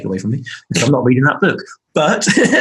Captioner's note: laughing